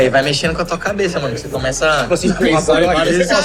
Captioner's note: laughter